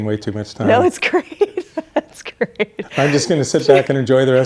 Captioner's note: laughs